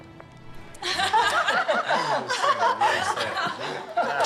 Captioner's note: laughter